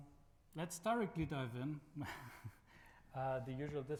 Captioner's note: laughs